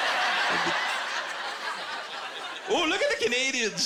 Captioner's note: laughter